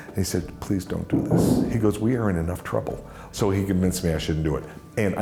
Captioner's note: none